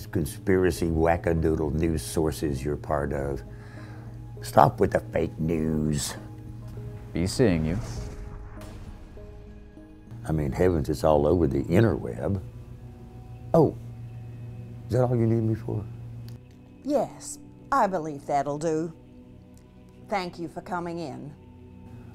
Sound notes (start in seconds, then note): 7.6 whoosing and fart sounds